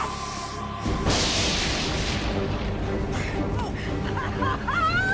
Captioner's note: dramatic orchestral music; lightning zaps; laughs